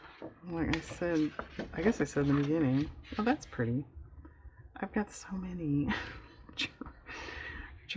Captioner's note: laughs